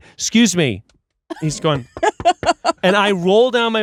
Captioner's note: knocks